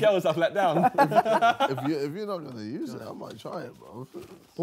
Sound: group chattering

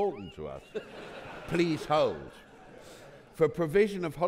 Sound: audience laughing

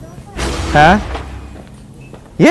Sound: suspenseful crash

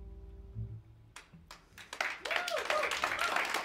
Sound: cheers and applause

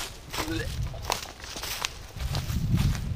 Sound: dry heaves

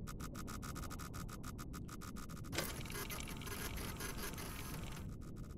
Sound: machine whirring

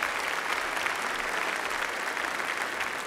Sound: applause

